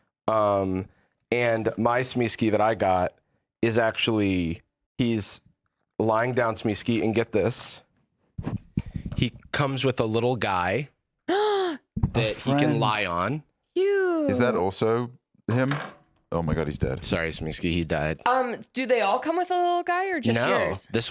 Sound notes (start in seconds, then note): 11.3 gasps